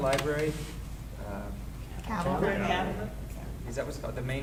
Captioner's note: people chattering